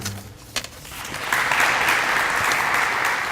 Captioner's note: applause